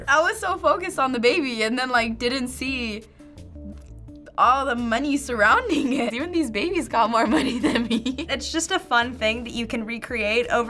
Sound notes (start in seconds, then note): 7.3 laughs